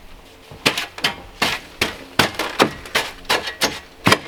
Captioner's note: smacking